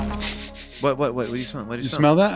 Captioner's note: sniffs